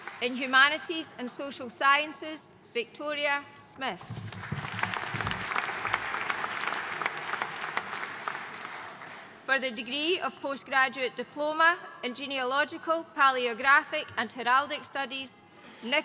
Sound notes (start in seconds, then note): 4.2 audience applauding